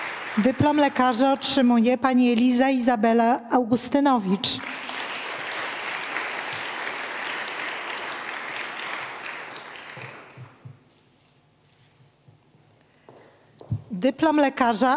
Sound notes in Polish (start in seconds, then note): 6.7 oklaski